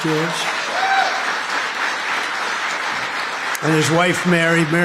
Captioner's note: applause